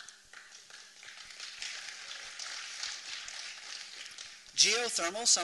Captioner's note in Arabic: تصفيق